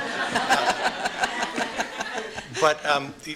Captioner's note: laughter